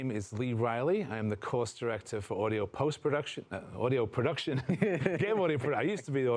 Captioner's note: laugh